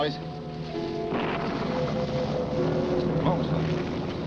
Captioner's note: thunder crashing